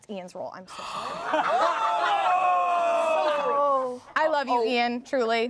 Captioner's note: everyone laughs